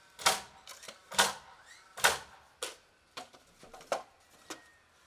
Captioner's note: nail gun popping